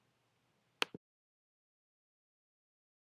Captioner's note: clicking noise